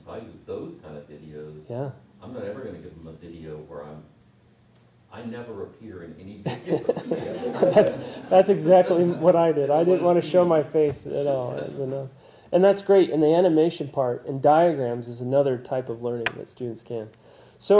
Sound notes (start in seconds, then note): 6.5 laugh